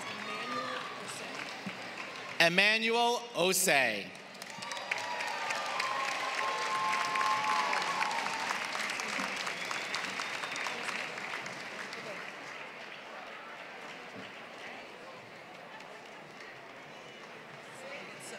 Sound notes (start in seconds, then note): 0.0 applause; 4.0 applause